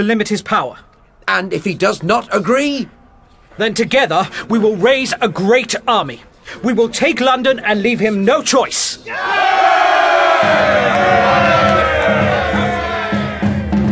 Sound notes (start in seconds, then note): 9.0 cheering; 10.3 drum beats